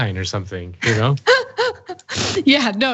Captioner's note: laugh